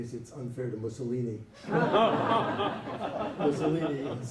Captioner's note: laughter